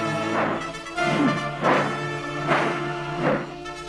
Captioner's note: sword whooshing